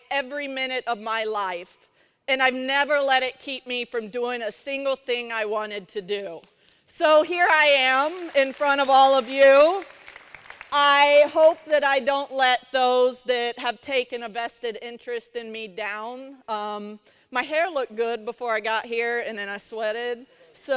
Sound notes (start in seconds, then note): 9.5 applause